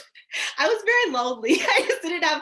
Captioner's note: laughing